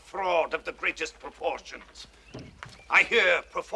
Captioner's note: laughs